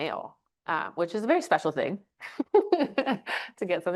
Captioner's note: chuckles